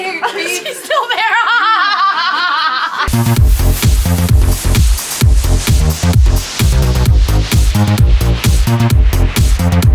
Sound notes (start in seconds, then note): 2.0 laughing; 3.0 upbeat electronic music